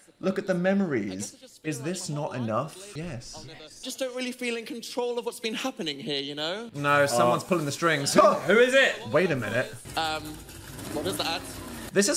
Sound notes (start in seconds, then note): 8.2 Dan exclaims